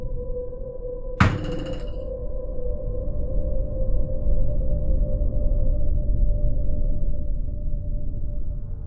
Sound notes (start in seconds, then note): 1.2 door hits wall